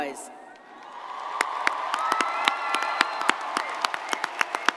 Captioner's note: crowd cheering